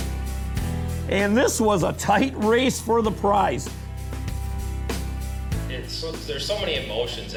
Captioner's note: voiceover